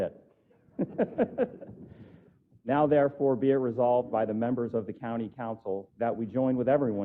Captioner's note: laugh